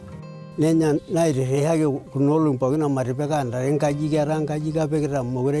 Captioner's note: speaking in foreign language